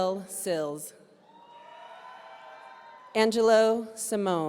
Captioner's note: audience cheering